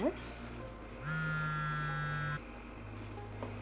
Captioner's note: buzzing